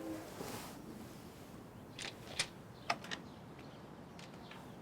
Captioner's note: door opens